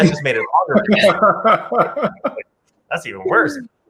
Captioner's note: laughs